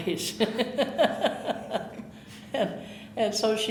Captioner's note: chuckling